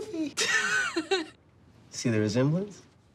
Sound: Maddie laughs

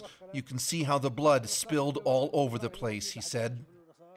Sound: speaking alternate language

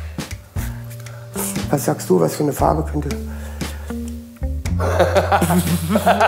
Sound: laughs

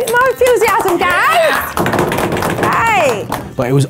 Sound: clapping; cheering

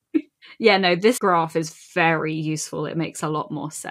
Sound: laughs

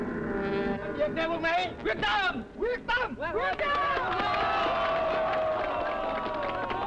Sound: cheering; speaking foreign language

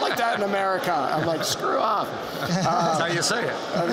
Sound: laughter

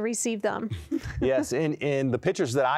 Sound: laughter

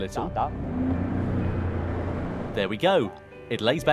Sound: engine revs

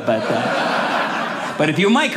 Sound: audience laughing

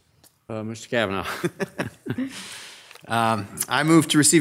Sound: laughs

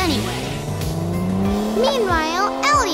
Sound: engine revving

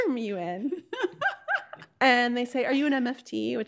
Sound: laughing

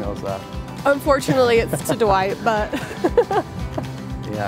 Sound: laughs

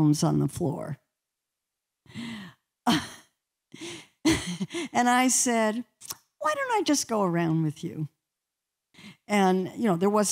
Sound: laughter

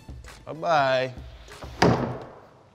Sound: door closes

